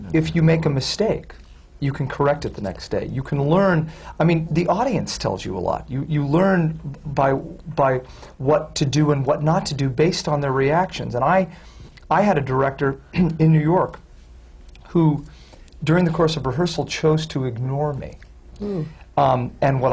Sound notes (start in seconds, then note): none